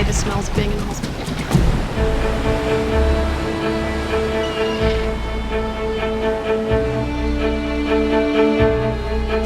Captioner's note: sound of waves crashing on the shore